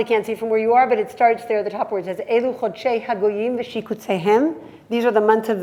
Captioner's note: hebrew